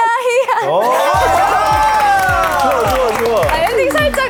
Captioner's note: applause